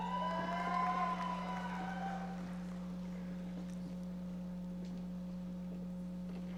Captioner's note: audience cheering and applauding